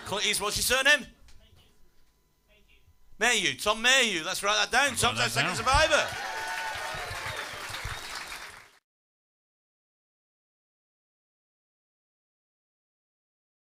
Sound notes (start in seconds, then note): 6.5 applause and cheers